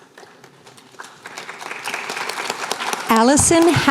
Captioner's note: applause